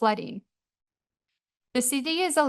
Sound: pause

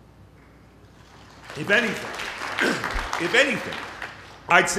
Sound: applause

